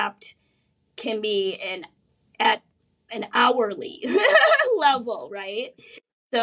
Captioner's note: laughs